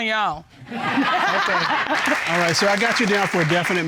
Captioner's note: audience laughing